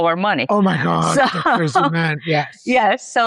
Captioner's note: laughs